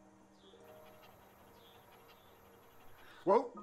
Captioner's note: panting